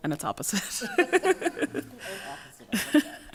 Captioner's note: laughs